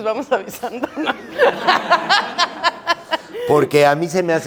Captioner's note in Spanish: Risas